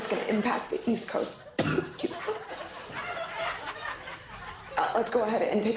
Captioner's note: coughs